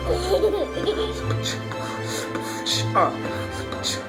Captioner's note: child laughing; beat boxing